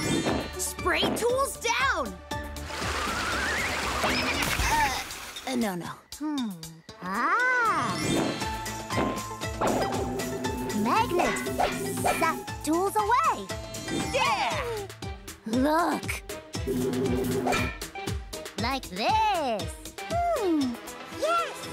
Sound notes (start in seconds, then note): 3.4 monkeys laughing